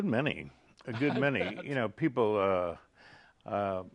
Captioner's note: laughing